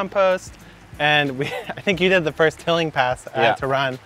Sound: laughing

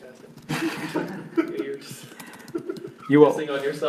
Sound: giggling

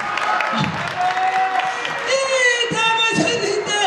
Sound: applause

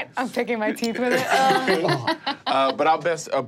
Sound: all laughing

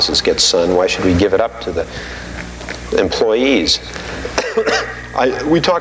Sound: coughing

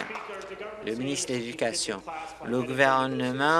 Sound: applause

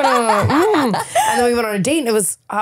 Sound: laughing

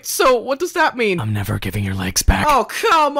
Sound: batman voice

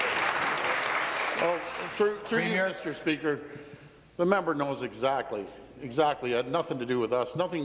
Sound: applause

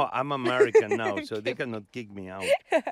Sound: laughing

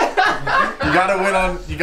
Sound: group laughter

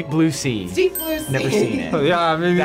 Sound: bell dings

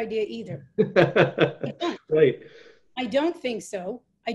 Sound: laughs

